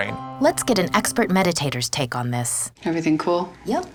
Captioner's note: voiceover